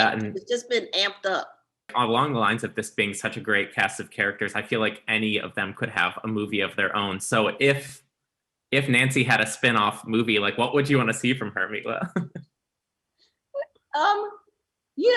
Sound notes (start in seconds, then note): 13.4 giggles